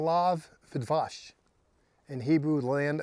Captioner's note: speaking Hebrew